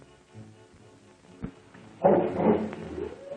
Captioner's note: dog barking and howling